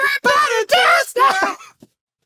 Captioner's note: cough